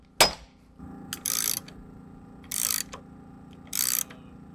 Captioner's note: tool creaking